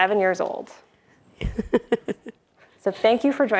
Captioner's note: giggles